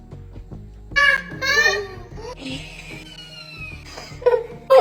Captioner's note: group laughing